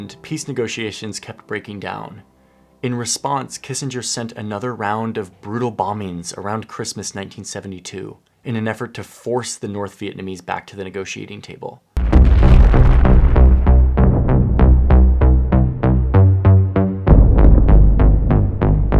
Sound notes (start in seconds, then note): 12.0 bombs exploding; 12.0 dramatic music